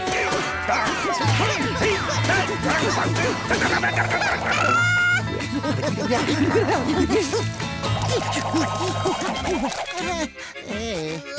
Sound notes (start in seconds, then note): 4.1 laughing